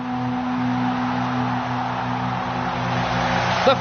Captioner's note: crowd roaring